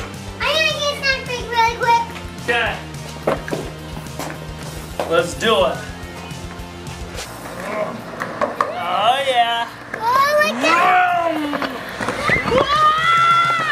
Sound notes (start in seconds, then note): 10.3 revving mouth noise